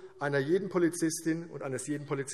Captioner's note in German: none